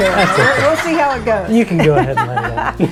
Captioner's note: children laughing